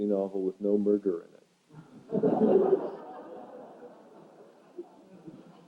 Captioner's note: laughter